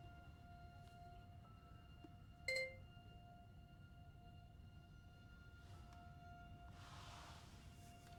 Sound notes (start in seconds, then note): 2.5 laptop chimes